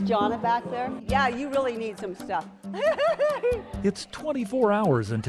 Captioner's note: laughs